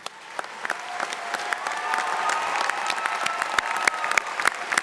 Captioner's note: audience applauding